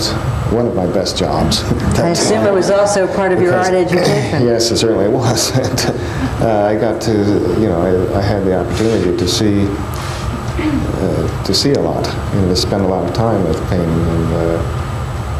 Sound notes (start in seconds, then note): 5.1 laughs